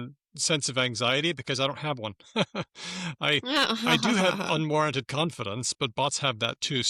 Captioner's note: laughs